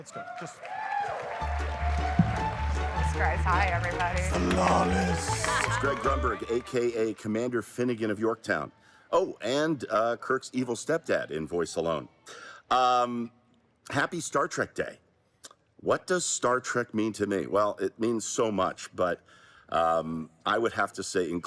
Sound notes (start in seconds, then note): 5.1 applause